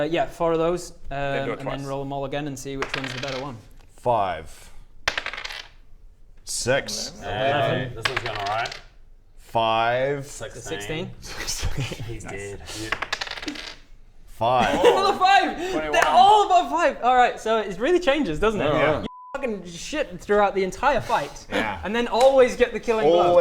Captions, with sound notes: yeah, 4 of those, then roll them all again and see which one's the better one 5 6 - Hey! - 11 This is going alright 5 = 16 16 *laughs* - He's dead! - Nice! 5! Another 5?! 21 They're all above 5?! Alright, so it really changes doesn't it? You're f***ing shit throughout the entire fight and then always get the killing blow